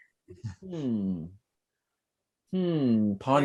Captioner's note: gasps